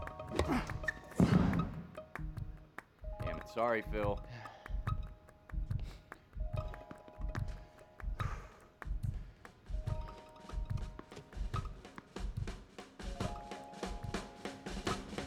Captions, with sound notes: (racket smacking) (Marshall grunting) (ball smacking) Dammit. Sorry, Phil. (heart beating) (ball bouncing) (energetic music continues)